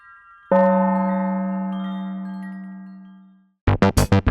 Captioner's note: wind chimes ringing; gong rings; spirited music